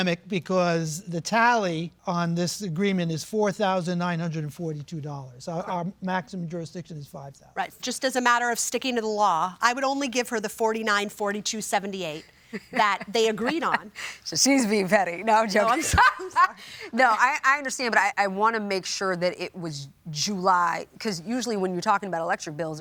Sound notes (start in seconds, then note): 12.4 chuckles; 15.7 laughter